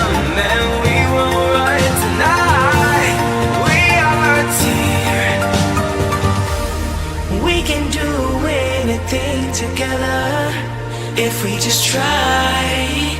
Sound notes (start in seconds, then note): 2.4 static; 7.4 static